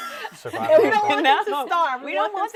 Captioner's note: panelists laughing